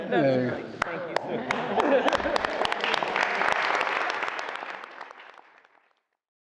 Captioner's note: applause